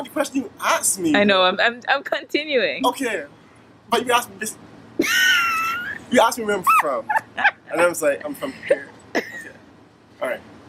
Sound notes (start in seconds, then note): 5.0 laughter